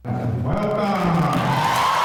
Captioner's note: man over Loudspeaker; students applauding and cheering